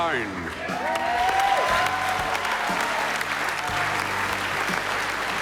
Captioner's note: applause and cheering